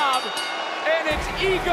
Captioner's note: bell rings